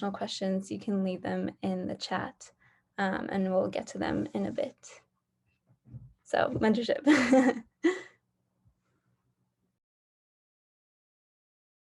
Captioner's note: laughter